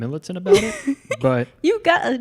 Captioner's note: laughs